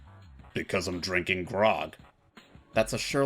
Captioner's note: tough guy voice